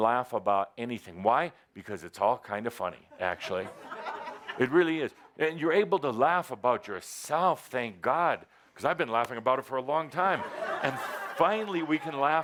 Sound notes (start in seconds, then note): 3.2 more laughter; 10.3 laughter